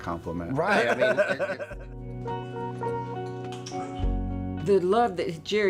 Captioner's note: laughs